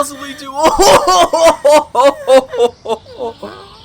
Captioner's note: laughing